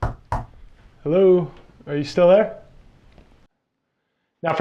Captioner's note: knock, Knock, Knock